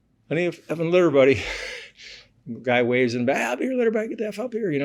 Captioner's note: laughs